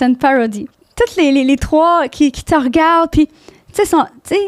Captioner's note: in french